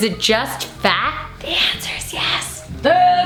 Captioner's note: whispers